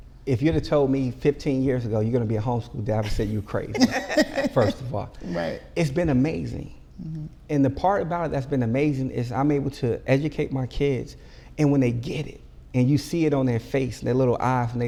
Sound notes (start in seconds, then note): 3.7 group laughing